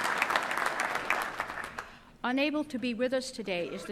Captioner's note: applause